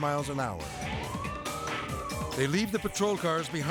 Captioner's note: sirens wailing